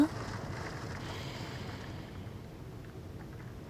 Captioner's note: inhales